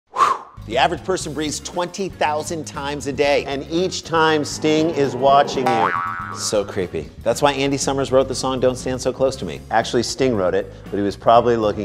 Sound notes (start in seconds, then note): 0.1 exhales; 5.6 boing